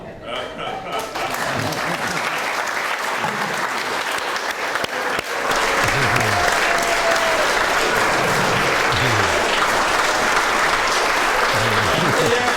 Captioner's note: applause